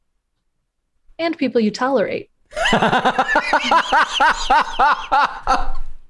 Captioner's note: laughter